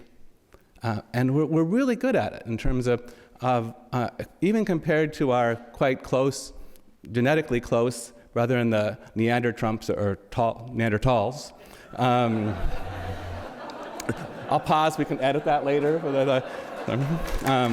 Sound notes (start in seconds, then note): 11.9 audience laughs